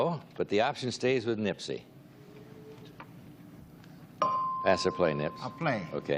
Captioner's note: buzzer; bell dings